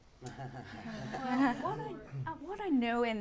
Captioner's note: laughter